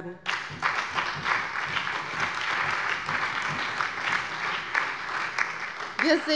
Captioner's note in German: Allgemeiner Beifall